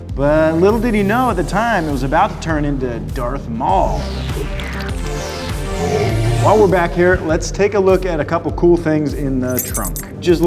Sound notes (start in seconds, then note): 5.9 roaring